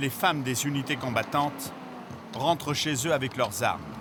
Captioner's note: French spoken audio